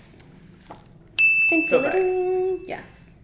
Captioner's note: bell dings